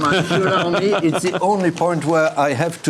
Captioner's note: laughing drowns out speaker